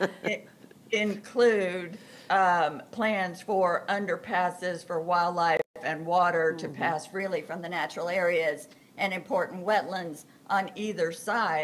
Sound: laughter

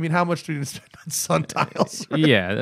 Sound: laughter

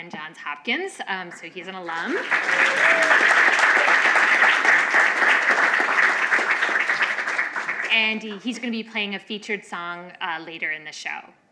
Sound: applause

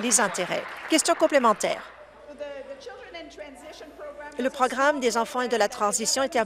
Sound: applause

